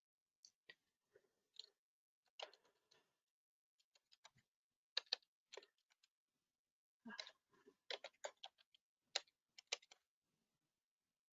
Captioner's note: 33 seconds pause